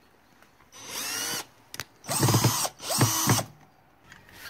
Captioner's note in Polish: Odgłos wkrętarki